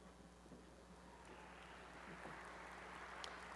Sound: applause

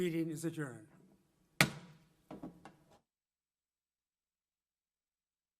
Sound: gavel banging

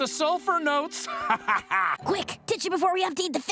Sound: laughing

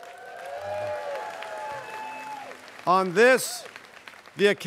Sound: students cheering

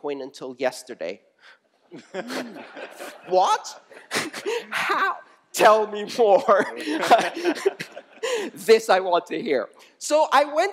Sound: laughter

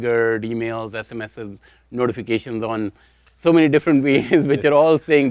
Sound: chuckles

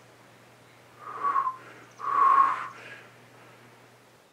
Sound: broken whistling

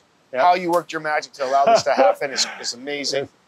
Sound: chuckles

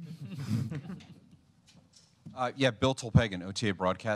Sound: laughter

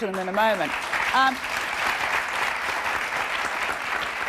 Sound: applauding

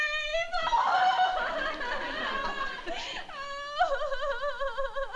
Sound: sobbing

